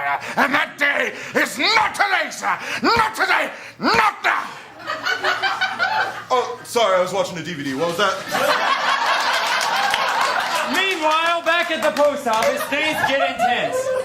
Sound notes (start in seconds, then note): 8.2 laughter & applause